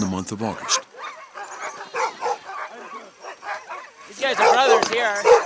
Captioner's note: dogs barking